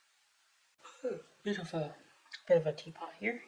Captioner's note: yawn